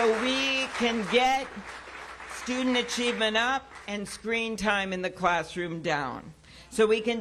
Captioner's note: applause